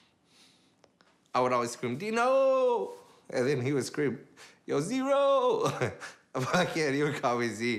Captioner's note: chuckles